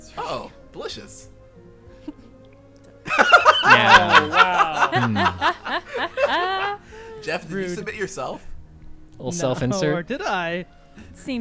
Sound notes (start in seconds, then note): 3.0 laughing